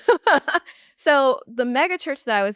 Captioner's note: laughs